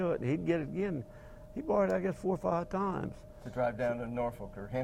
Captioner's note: none